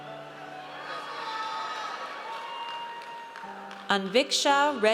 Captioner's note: audience cheers